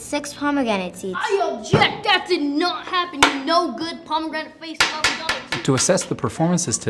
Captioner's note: gavel banging